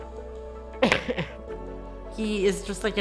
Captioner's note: coughs